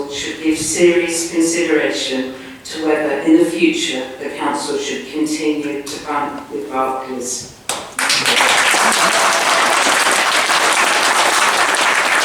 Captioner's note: applause